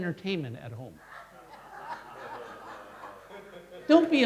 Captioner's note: crowd laughing